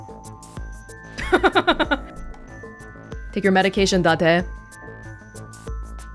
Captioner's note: chuckles